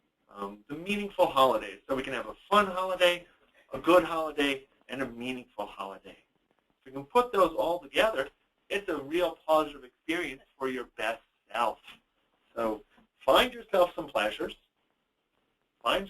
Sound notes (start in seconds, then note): none